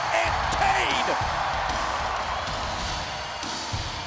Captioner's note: crowd cheering